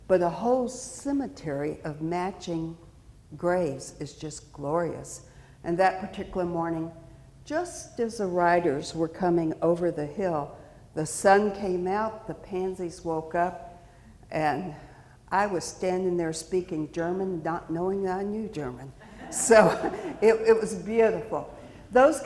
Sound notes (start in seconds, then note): 19.0 chuckling; 19.0 audience laughing